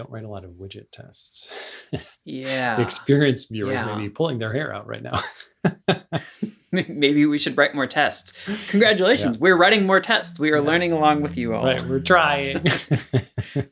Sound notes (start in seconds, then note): 6.1 laughs; 13.1 laughs